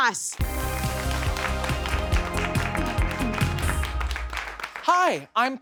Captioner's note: audience applauds; upbeat music